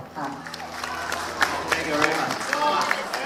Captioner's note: audience applauding